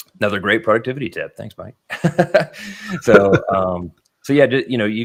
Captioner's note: laughing